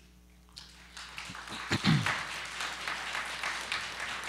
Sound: applause

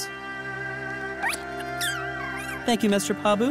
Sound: squeaking

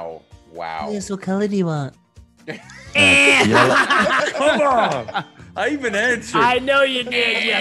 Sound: laugh

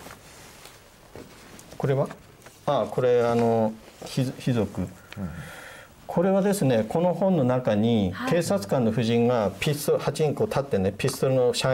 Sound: Korean

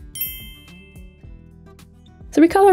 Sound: dinging sound effect

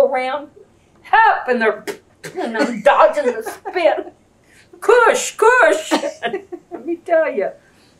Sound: imitates spitting

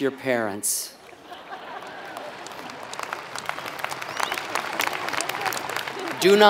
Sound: applause

